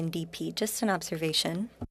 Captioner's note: speaking French